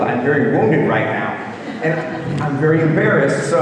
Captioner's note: audience laughing